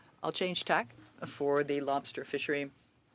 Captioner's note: speaking French